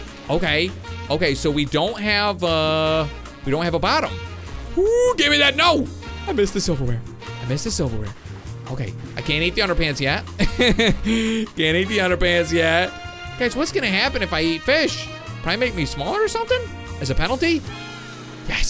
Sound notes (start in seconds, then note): 10.4 laughs